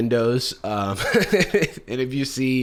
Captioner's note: laughs